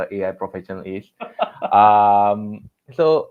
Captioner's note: laughs